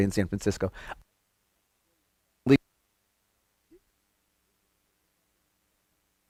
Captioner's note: audio Cuts Out